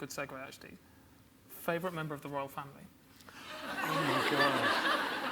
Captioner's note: audience laughs